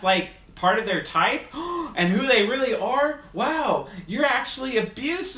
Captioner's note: gasping